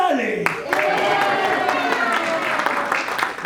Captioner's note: applause